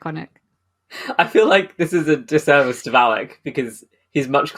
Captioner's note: laughing